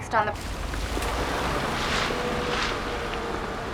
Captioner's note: car passing